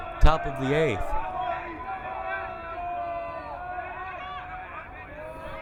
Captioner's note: crowd cheering